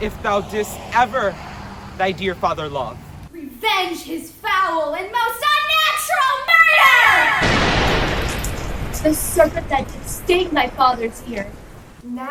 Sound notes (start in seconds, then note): 7.4 thunder roars